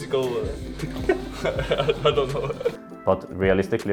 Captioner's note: laughter